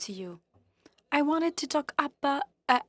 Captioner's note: speaking French